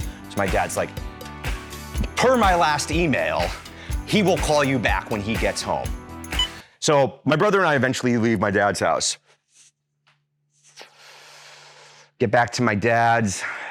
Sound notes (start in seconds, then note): 10.6 inhales